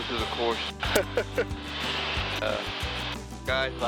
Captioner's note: laughing